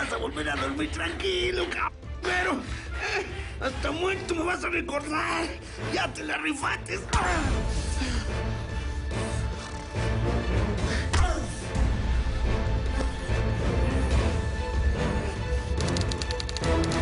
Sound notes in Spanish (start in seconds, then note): 7.7 Golpes